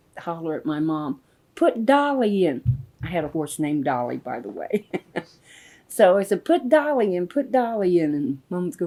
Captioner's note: laughs